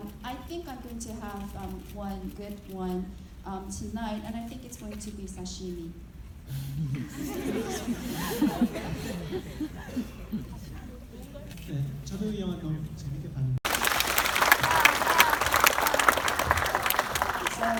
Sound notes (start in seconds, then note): 6.9 audience laughing; 12.3 speaking in foreign language; 13.6 audience clapping